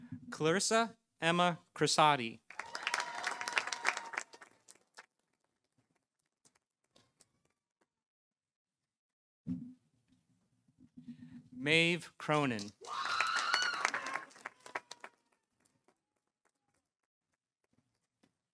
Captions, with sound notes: Clarissa Emma Crisati. -(audience cheering) -(audience applauding) Mave Cronan. -(audience cheering) -(audience applauding)